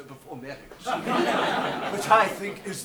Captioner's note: audience laughs